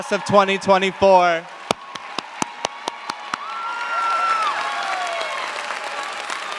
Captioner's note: cheers, applause